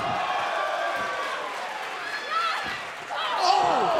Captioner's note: crowd cheering